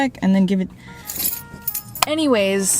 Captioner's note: keys jingle